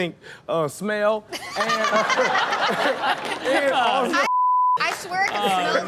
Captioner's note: everyone laughs